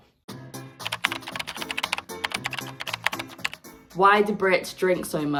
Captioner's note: keyboard clacking